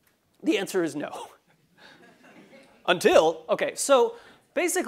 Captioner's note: laugh